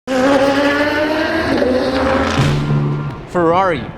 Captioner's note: engine revving